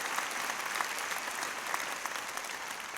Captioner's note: applause